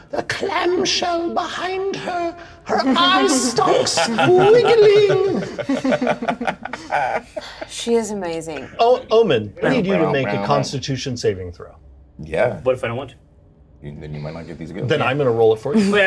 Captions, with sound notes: The clamshell behind her. Her eyes stalks squiggling. (Laughter) - She is amazing. - Oh, Omin, we need you to make a constitution saving throw. - Yeah, what if I don't want to? - Then I'm gonna roll it for you.